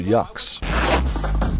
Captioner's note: lower zipper up sound